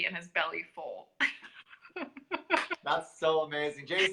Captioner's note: laughter